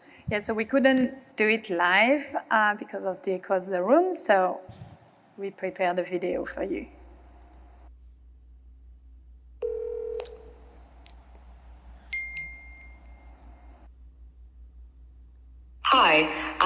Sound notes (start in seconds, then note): 9.6 phone ringing; 12.1 notification ding